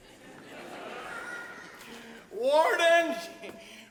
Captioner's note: audience laughs